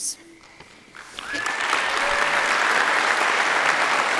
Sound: audience clapping

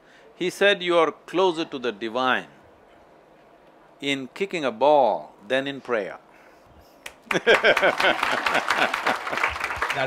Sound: laughter/ Applause

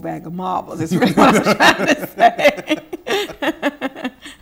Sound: laughing

